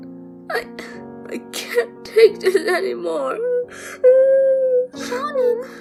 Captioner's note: cries